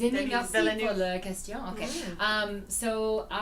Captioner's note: foreign language